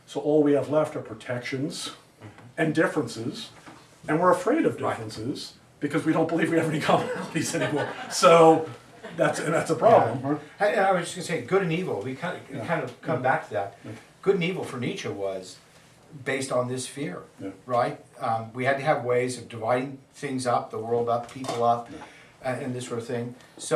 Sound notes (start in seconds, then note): 6.9 students laugh